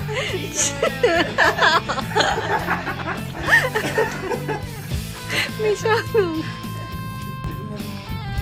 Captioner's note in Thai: เสียงหัวเราะ